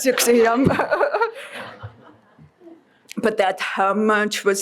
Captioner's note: laughing